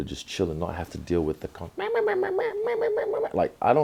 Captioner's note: makes chatter noise